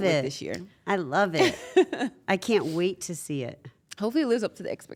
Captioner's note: laugh